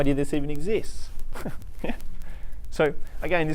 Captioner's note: laughing